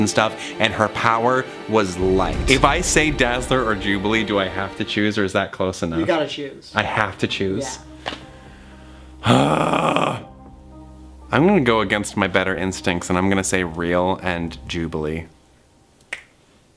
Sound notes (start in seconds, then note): 9.2 groans; 16.1 snaps